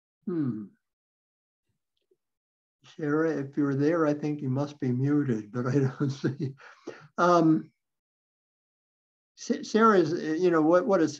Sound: chuckles

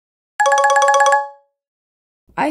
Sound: phone ringing

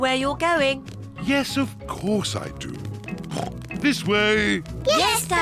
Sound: oinks

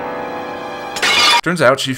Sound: smash

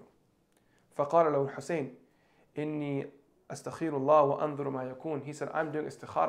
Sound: speaking in Arabic

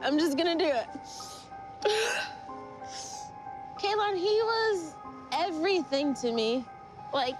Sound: crying

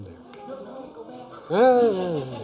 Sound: audience murmuring; mimicking murmuring

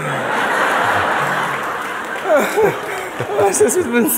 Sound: laughter

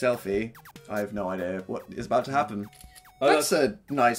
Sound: camera click

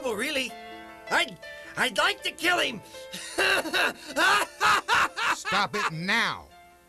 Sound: evil laughter

